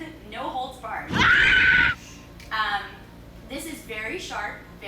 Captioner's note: screaming